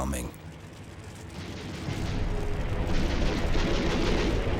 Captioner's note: explosions booming; guns firing